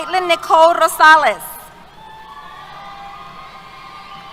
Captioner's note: cheers